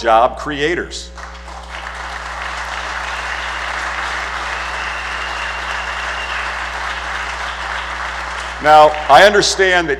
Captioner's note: applause